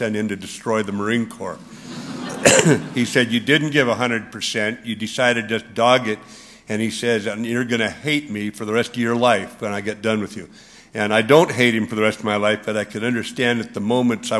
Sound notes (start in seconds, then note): 1.6 laughter